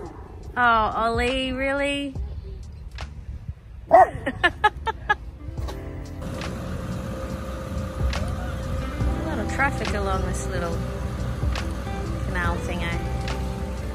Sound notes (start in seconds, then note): 0.0 Ollie barks; 4.0 laughs; 6.1 small motor sound from boat